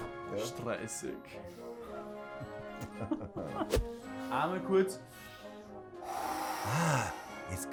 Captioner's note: breathes in and out